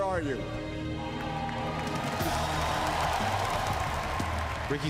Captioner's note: crowd cheering